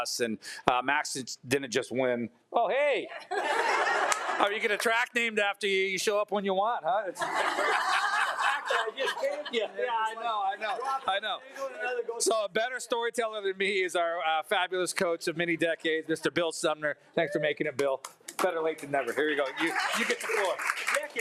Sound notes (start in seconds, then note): 3.1 attendees laughing; 7.1 attendees laughing; 8.9 speaking faintly